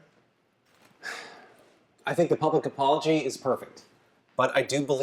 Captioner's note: sighs